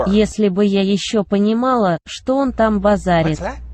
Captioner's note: speaking russian